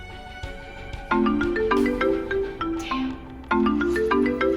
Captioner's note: phone ringing